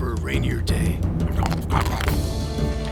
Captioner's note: loudly chews on the bread